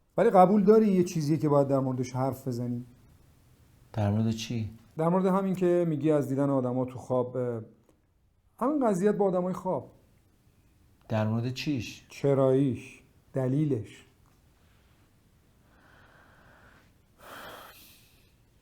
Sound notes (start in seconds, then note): none